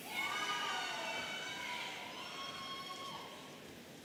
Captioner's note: audience cheering